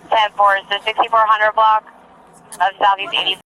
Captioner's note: radio chatter